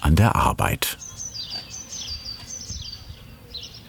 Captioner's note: birds chirping